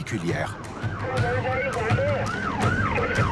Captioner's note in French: Audio parlé en langue étrangère